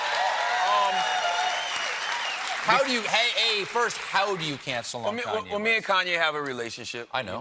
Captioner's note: cheers and applause